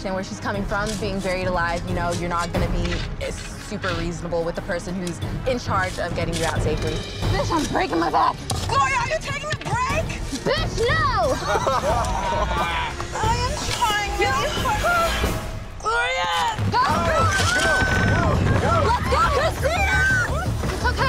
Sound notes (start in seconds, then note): 8.1 shovel scrapping; 11.2 both laughing; 18.9 urgent music